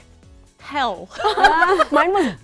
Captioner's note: laughter